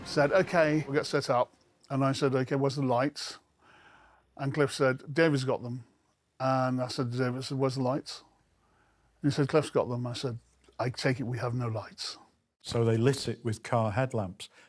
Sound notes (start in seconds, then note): none